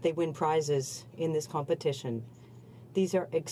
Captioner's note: speaking French